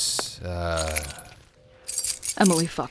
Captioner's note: sound of keys